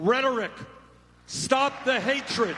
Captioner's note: applause